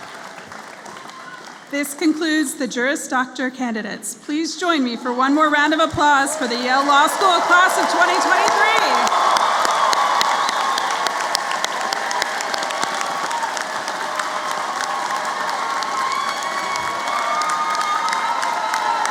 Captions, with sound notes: This concludes the Juris Doctor candidates. Please join me for one more round of applause for the Yale Law School class of 2023. [APPLAUSE]